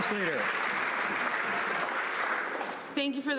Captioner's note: some Applause